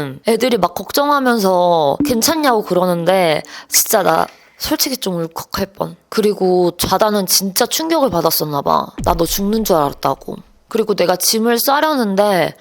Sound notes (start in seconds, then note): 3.4 gasp